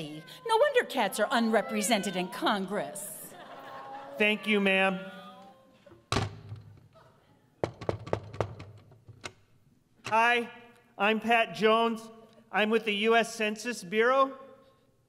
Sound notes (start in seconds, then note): 5.9 door closes; 7.6 knocking on door